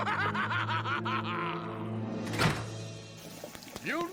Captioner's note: лязг дверей